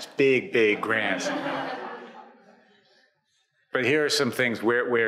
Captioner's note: audience laughs